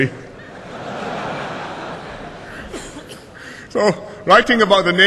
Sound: laughter

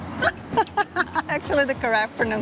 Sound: laughs

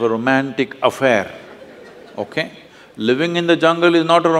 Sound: laughter

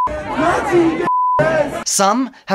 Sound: beep

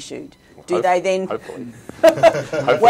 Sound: laughing

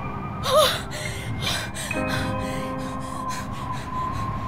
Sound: gasping, panting

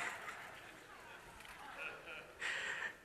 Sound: congregation laughs

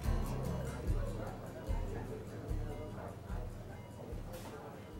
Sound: people chattering

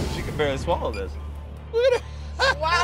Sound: laughing

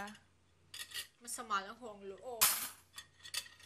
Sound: clutters

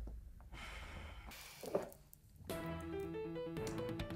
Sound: Dalia sighs

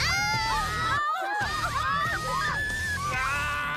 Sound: scream

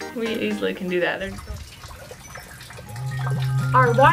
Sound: water dripping noises

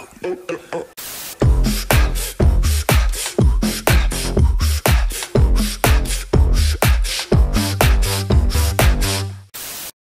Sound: ooh aah type breathing

